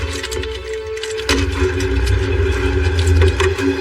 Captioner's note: trunk s slams